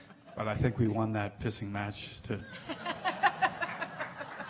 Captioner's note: laughing